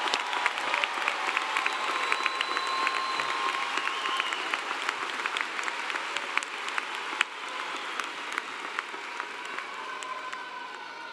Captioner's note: applause